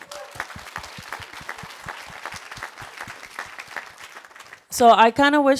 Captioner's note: applause